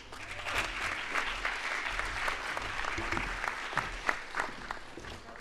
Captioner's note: audience applauds